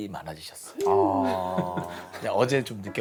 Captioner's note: heh